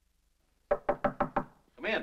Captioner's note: soft knocking on door